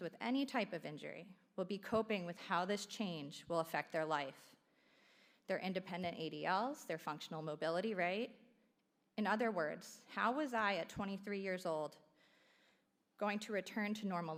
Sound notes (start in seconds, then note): none